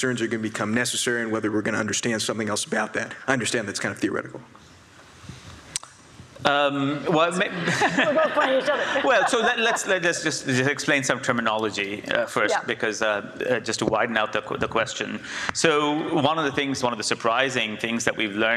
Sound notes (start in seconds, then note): 7.4 audience laughs